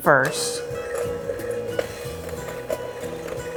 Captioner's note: mixer whirring